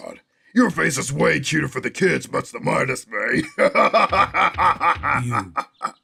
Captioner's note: laughs